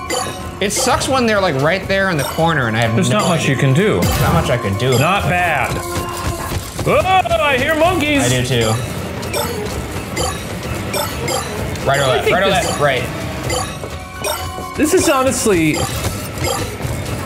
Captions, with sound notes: It sucks when they're like right there in the corner and I have no- - There's not much you can do. - Not much I can do. - Not bad. (feet thumping) Oh, I hear monkeys. - I do too. (shards bleeping) Right or left, right or left? Right. - This is honestly...